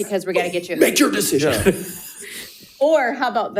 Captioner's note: all chuckling